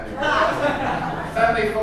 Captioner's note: audience chuckles